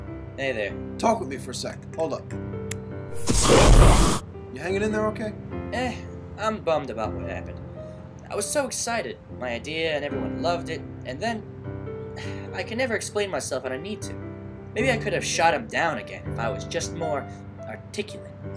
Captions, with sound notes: -Hey there. -Talk with me for a sec. Hold up. [ROARING FLAME] Ya hangin' in there okay? Eh. I'm bummed about what happened. I was so excited! My idea, and everyone loved it...and then... [SIGH] I can never explain myself when I need to. Maybe I could've shot him down again if I was just more...articulate.